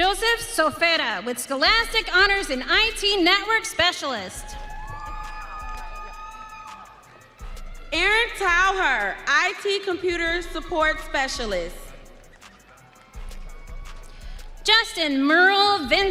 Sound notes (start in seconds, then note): 6.7 audience cheering